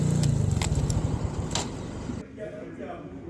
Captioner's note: engine going off; key turning